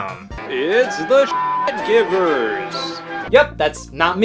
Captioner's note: beep